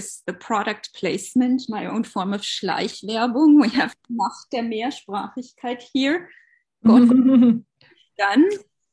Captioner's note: speaking german